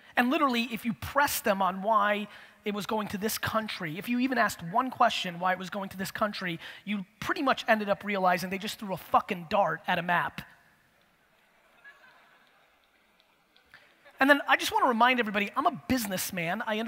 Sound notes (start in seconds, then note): 11.5 audience laughter